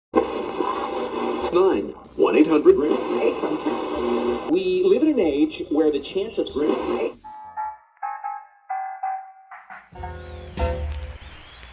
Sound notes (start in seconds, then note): 0.1 analog radio tuner scanning stations; 7.1 big band swing